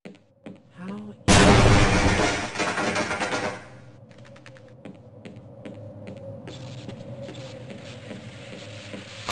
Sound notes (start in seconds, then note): 1.3 dialogue cut off by explosion